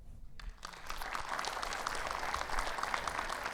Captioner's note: audience applauding